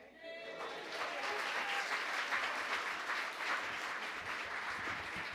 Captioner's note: applause